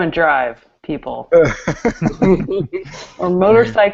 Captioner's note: laughter